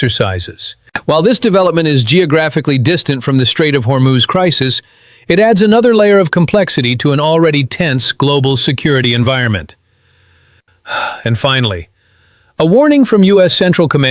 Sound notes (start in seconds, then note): 10.8 sighs